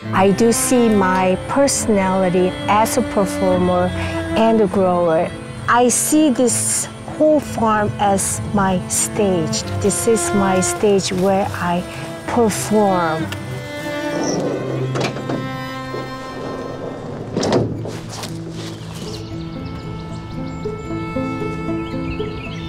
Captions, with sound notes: I do see my personality as a performer and a grower. I see this whole farm as my stage. This is my stage where I perform. [birds chirping]